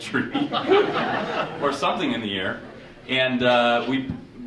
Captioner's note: audience chuckling